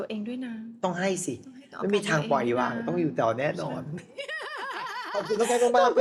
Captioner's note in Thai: เสียงหัวเราะ